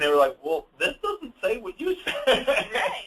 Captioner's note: laughs